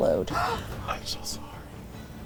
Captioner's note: gasps